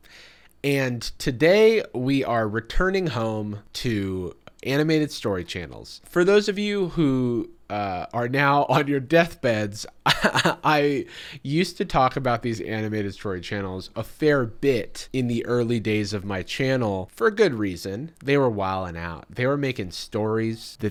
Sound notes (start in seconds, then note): 10.0 chuckles